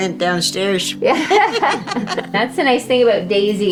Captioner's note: all laughing